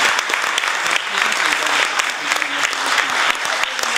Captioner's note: applause